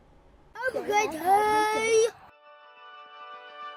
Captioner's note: kids chattering